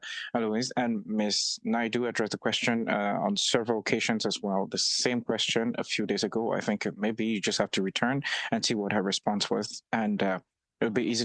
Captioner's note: speaking French